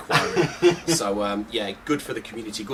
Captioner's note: laughing